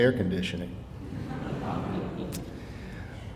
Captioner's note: audience laughing